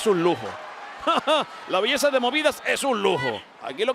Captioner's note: laugh